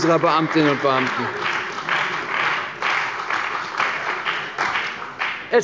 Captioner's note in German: Beifall bei der CDU und dem BÜNDNIS 90/DIE GRÜNEN